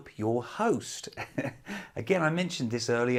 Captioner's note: laughs